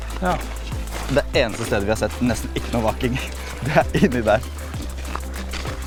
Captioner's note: giggle